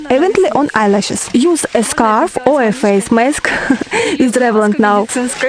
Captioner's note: laugh